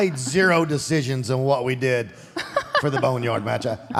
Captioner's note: Michelle laughs